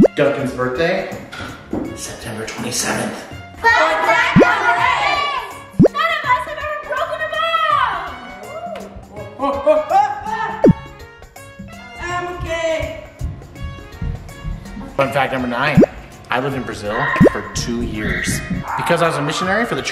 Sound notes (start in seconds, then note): 3.8 all Yelling; 10.6 bubble sound